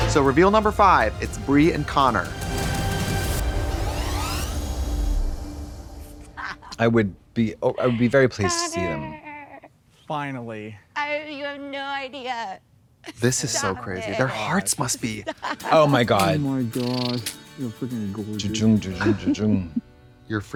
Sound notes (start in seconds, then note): 6.3 laughing